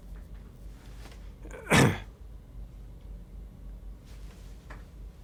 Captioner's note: coughs